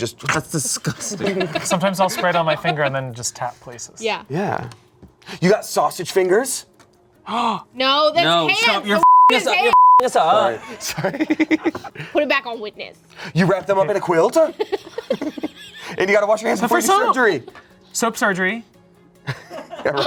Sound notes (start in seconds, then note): 9.6 beep